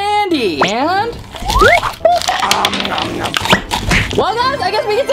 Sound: chewing and grunting

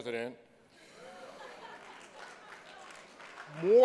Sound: laughter

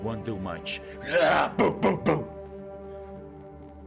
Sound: grunting

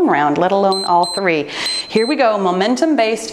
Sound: timer beeps

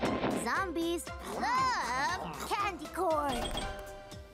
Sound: none

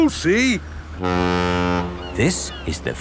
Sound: laughing; ferry horn blows

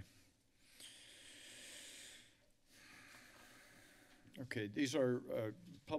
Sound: inhales and exhales deeply

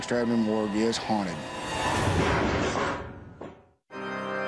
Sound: bang; organ music

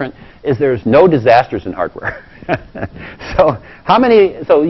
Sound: laugh; laugh

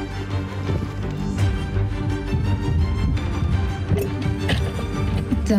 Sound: dramatic music swells; loud footsteps

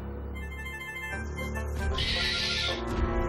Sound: screeching

